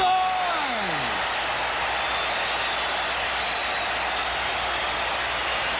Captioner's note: crowd cheers